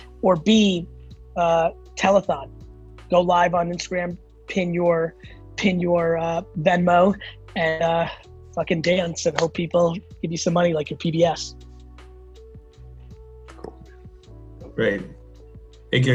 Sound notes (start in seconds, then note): 9.3 hands clap; 11.9 gentle music